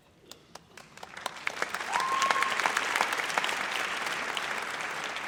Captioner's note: audience applauds